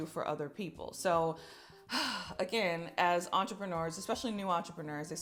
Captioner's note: deep sighing